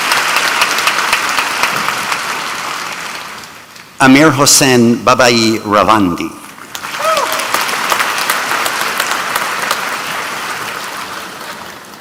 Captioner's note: applause